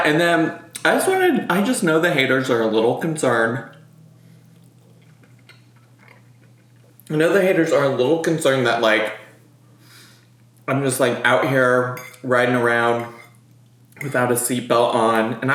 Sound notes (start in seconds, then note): 4.4 chews